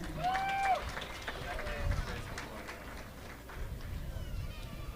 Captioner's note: audience applauding